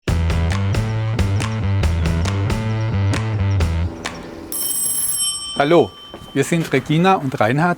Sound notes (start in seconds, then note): 2.1 rocking music; 4.5 ringing